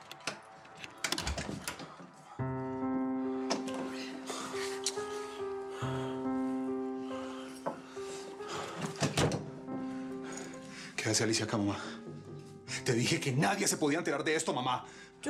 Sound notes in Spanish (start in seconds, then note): 0.0 ruido al abrir; 8.6 portazo